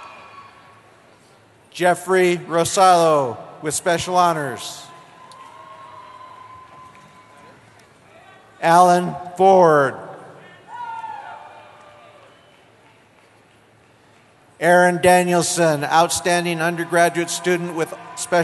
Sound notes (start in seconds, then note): 4.4 cheering; 10.4 cheering